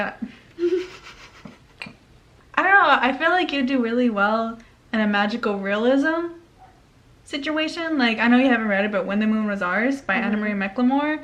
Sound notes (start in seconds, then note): 0.3 giggles